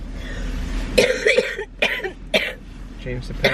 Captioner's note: coughing